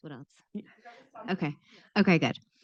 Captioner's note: faintly speaking